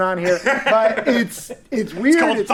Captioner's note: all laughing